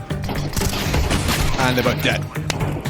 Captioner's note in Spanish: Disparos